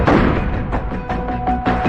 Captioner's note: gununshshots